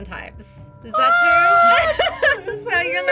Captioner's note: sarcastically; laughs